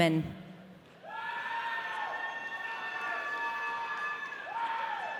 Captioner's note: audience cheering